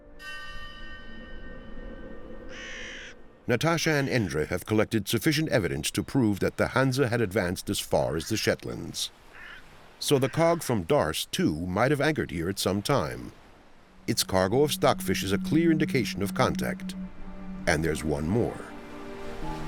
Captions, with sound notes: [bell chimes] [crow caws] Natasha and Endre have collected sufficient evidence to prove that the Hanse had advanced as far as the Shetlands. So the cog from Darss too might have anchored here at some time. Its cargo of stockfish is a clear indication of contact. And there's one more.